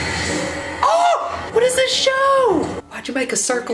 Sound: threatening music; yells

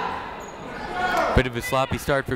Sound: people shouting in the crowd

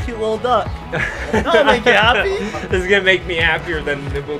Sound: laughs

